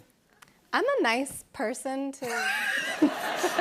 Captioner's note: laughter